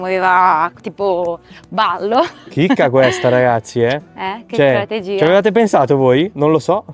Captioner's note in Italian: risate